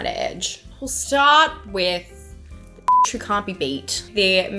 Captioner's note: beep